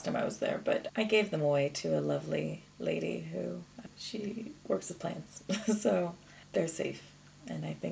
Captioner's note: chuckles